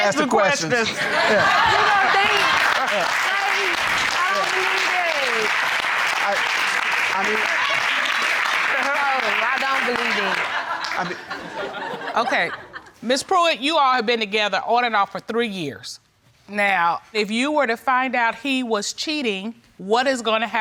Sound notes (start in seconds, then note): 2.7 courtroom laughing